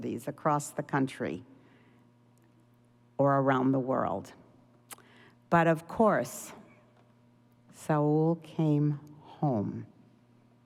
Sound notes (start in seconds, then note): none